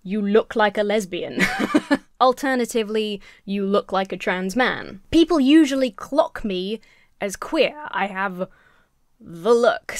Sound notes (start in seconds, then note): 1.3 laughs